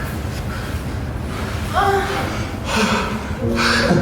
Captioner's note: Chris sighs; Raquel groans; gentle piano music; Chris chuckles